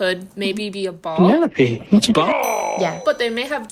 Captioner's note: bell ringing